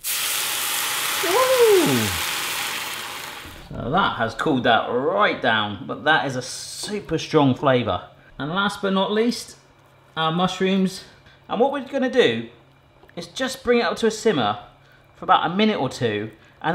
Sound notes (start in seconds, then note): 0.0 liquid sizzling